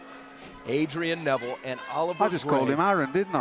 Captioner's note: bell ringing